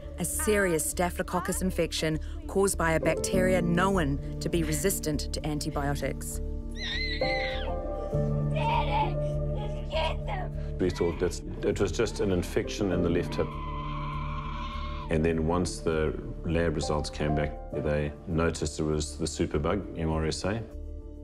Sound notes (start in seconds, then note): 6.7 screams